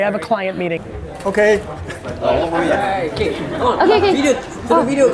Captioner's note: crowd chatter